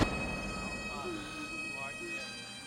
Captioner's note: sobbing